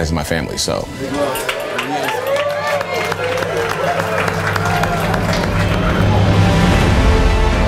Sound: crowd cheering; uptempo dramatic music

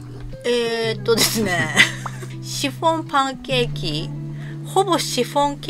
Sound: laughs

